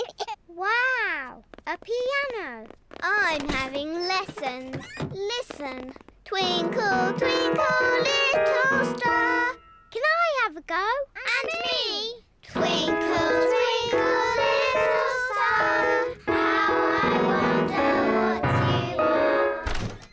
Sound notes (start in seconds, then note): 6.4 clunks discordantly